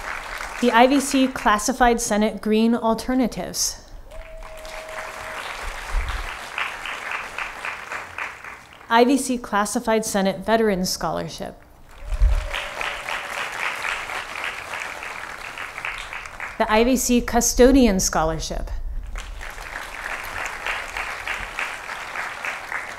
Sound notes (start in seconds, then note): 0.0 applause; 4.1 applause; 11.8 applause; 19.0 applause